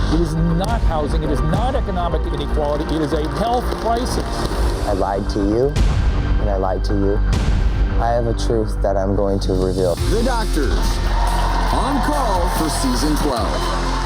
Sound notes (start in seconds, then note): 11.9 audience cheers